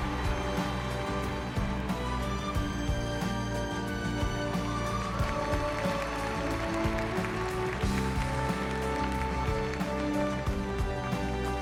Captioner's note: cheers and Applause